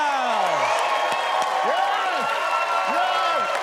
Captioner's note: audience cheering and clapping